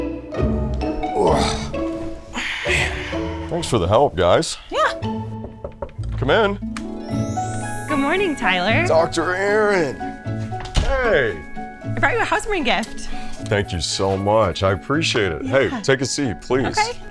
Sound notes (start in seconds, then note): 5.1 door knocking